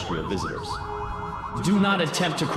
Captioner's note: sirens wailing